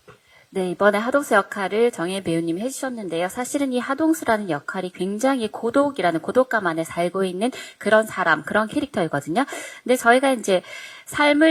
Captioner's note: translating in Korean